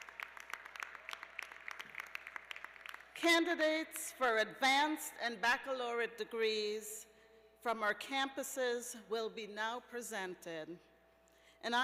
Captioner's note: applause